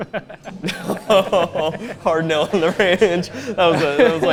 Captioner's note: laughs